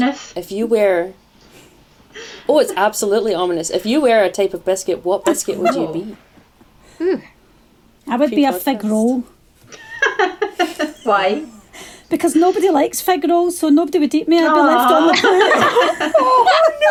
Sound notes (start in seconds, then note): 9.6 laughter - why?; 13.7 laughter